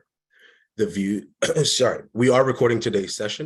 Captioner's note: coughs